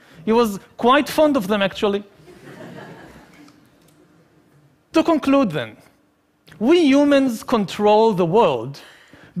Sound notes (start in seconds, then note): 2.4 laughing